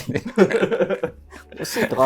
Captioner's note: laughing